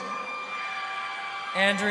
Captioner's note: crowd cheering